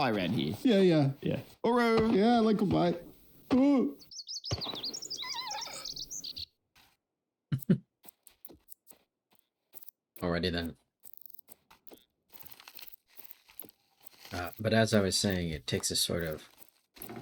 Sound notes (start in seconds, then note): 7.5 chuckle